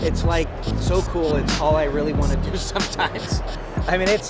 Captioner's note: laughs